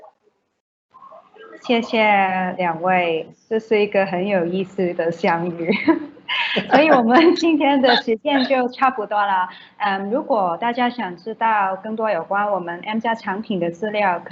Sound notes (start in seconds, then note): 2.1 Mandarin